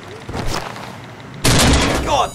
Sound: thump

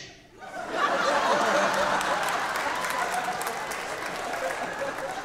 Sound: audience laughing

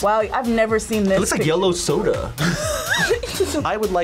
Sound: group laughs

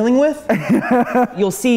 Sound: laughing

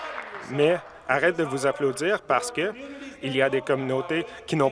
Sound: some Applause

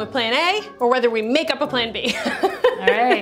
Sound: laughs

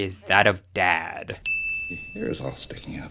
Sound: bell dings

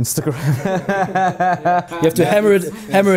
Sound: laughing

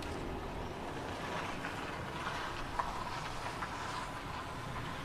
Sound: morning outdoor background sounds

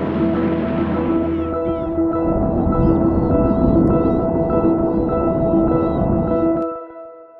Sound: jet Engine Hissing, Music

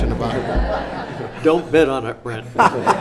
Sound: laughing

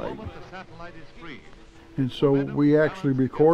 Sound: voice echo from satellite

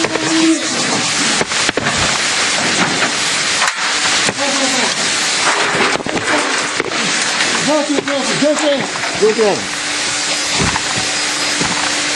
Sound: steam

